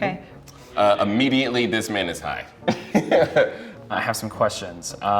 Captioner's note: laughs